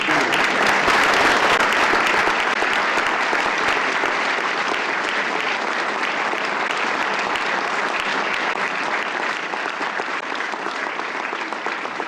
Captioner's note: laughter